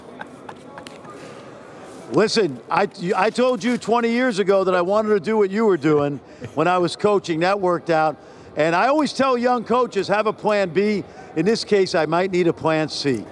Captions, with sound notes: IT'S A GREAT BASKETBALL MOVIE. IF YOU ARE A LISTENER OR VIEWER, YOU HAVE TO SEE IT. EXCELLENT SECOND CAREER POTENTIALLY AS AN ACTOR. [ LAUGHTER ] LISTEN, I TOLD